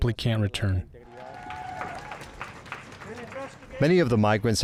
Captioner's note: migrants clapping